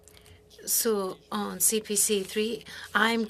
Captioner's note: speaking French